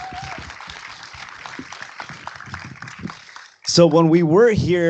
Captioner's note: applause